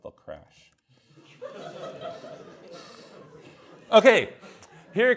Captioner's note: students laugh